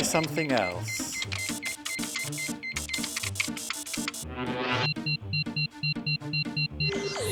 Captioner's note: laboratory machinery beeps; dramatic music